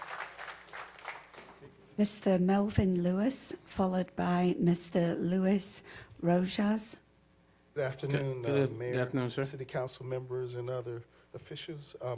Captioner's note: applause